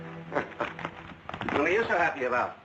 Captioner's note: laughing